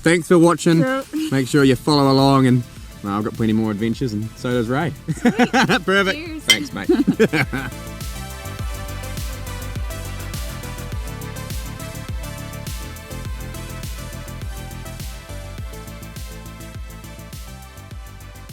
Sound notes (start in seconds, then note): 4.8 laughs; 6.4 upbeat music